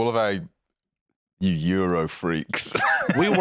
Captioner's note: laughs